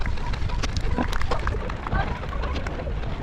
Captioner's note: wind blowing